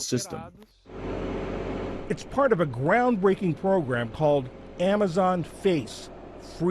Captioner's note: voice-over